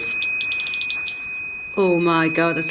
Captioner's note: Rem chirping